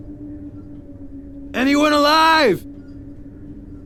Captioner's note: shouting